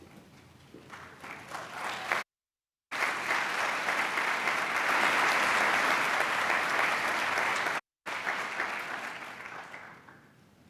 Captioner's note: applause